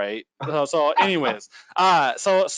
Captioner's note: laughing